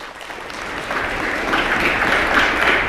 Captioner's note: applause